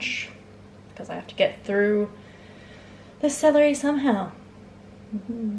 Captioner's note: sigh; faint spooky ghost noise